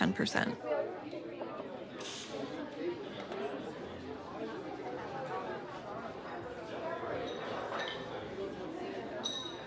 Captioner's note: cafe chatter